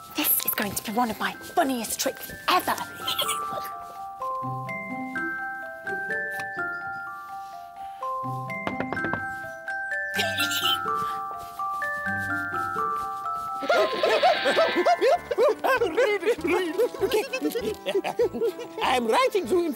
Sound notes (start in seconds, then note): 8.6 knock knock knock!; 13.6 Panicked Mayor noises!